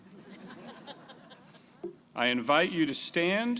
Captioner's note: crowd laughing